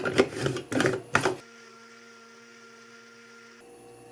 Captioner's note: whirr